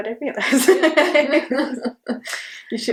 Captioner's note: both laugh